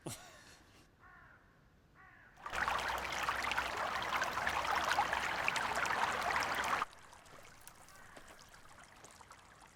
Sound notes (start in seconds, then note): 0.0 Jim laughing; 2.4 water trickling